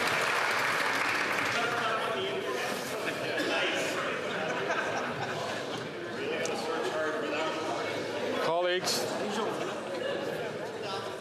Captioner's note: some Applause